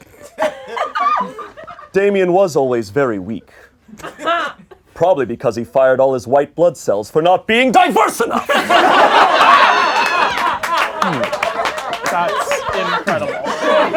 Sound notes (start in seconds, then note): 0.1 laughing; 8.2 laughing